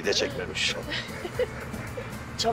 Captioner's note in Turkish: Gülüyor